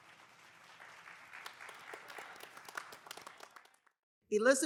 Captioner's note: audience applauding